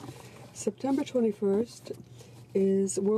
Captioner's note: speaking French